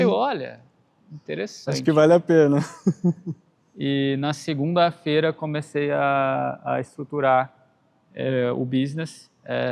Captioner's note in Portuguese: risadas